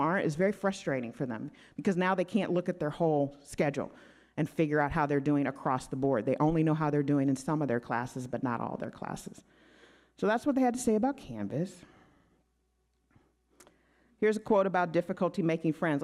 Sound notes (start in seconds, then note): none